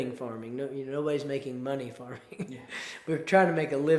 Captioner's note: chuckles